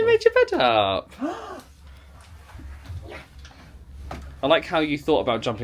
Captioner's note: gasps